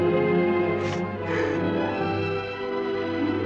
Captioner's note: sniffles